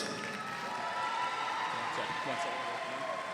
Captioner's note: cheering